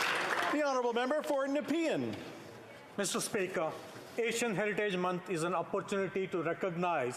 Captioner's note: applause